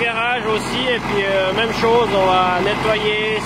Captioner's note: tractor engine noise